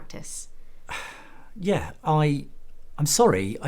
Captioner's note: sigh